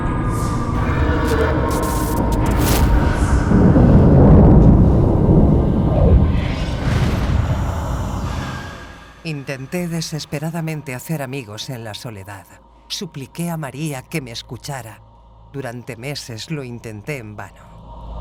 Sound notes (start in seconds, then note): 4.0 thunder crashes; 6.8 eerie music